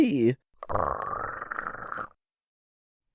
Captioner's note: gargling sounds